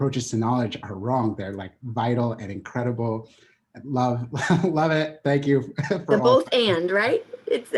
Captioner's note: chuckling